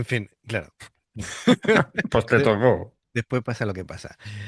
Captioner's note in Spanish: risas